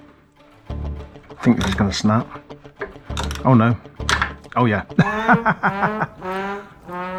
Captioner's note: snap